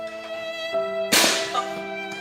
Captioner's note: gunshot